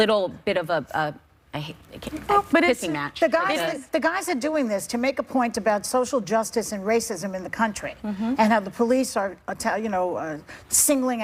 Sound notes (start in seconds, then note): none